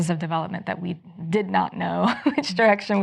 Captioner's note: chuckles